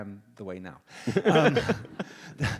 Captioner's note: audience laughs